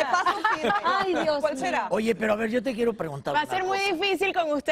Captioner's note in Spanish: risas